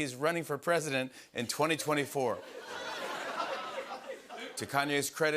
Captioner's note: laughter